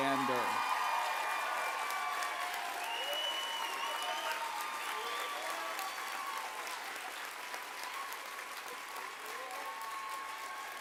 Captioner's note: applause